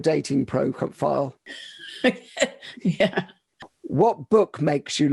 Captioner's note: laughs